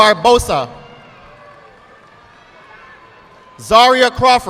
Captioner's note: audience clapping